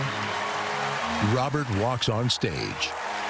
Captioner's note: cheering and applause